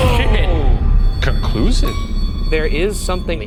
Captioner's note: bell dings